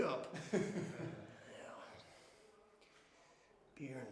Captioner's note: Hawkeye laughs